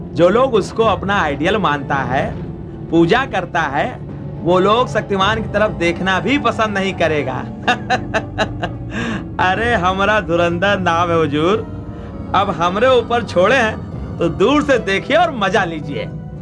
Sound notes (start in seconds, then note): 7.4 laughs